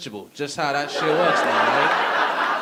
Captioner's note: audience laughing